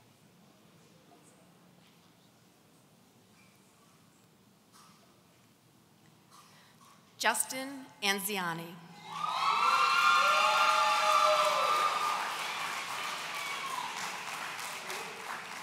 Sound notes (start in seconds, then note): 9.0 audience cheering